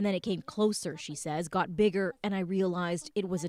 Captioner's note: speaking Foreign Language